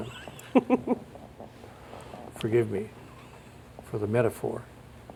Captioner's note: laughs